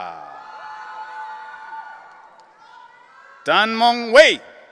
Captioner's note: audience cheering